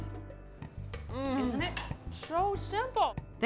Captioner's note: moans